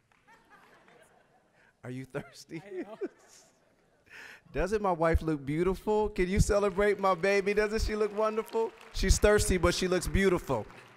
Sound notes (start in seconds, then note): 0.3 audience laughing; 2.1 both laughing